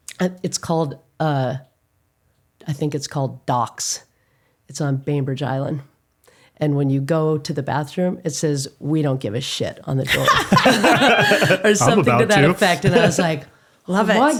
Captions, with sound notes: It's called, I think it's called Docs. It's on Bainbridge Island, and when you go to the bathroom, it says, "We don't give a shit" on the door. (laughing) - I'm about to. - Or something to that effect, and I was like, "Love it.